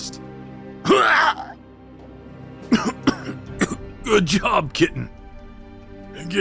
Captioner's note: D., coughing